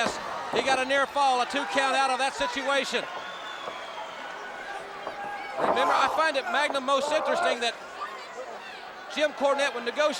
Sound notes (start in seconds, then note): 3.4 crowd chatter